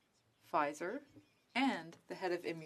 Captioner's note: speaking French